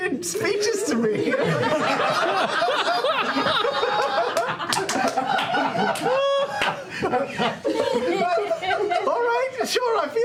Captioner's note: laughter